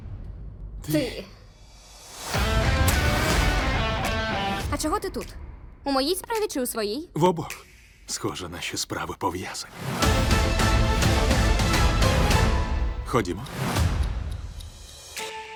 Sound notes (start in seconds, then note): 9.7 dramatic music plays; 12.7 clock ticking